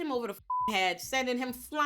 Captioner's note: beep